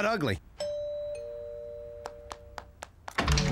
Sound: doorbell rings

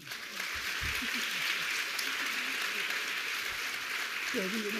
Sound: audience applauding

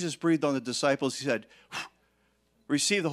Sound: blowing air

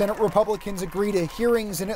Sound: applause

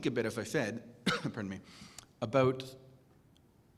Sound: cough

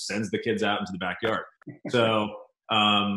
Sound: laughs

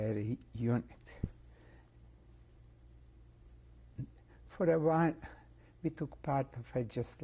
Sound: pauses for 3 seconds

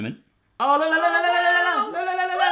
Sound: screaming; popping

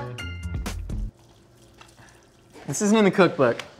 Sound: mezcal trickling

